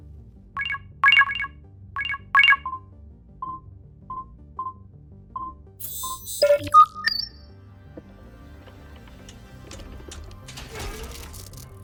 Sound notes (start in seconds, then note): 2.0 beeping